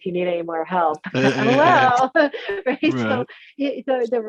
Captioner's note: both laughing